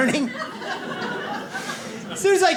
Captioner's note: audience laughs